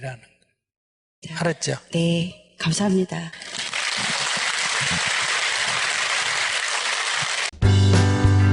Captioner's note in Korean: 청중 박수